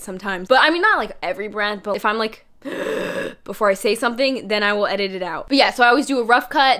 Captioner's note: loud inhale